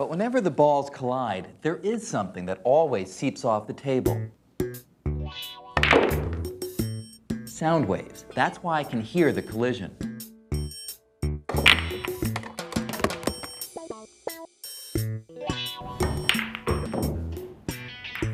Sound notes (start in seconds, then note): 5.8 balls clack